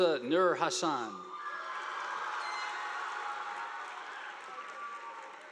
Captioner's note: audience applauding